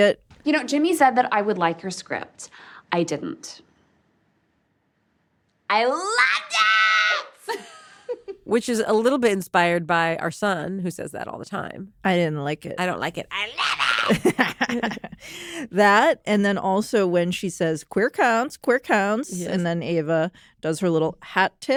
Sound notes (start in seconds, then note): 6.0 shrieking; 13.6 laughs